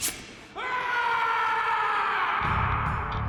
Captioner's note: shears snip; Grigori screams